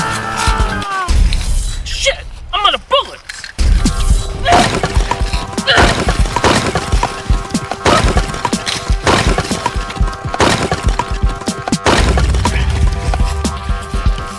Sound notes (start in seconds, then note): 0.1 gun clicks; 4.4 weapons thudding; 5.4 fighters grunting